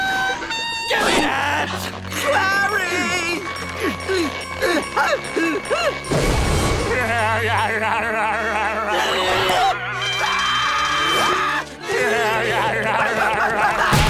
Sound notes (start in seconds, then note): 0.0 clarinet playing; 3.4 grunting; 6.8 laughing; 8.9 screaming; 11.5 laughing